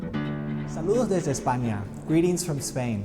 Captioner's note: speaking Spanish